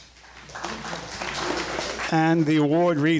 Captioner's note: crowd clapping